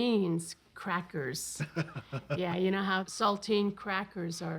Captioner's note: chuckles